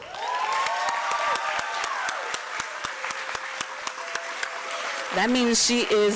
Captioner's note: applause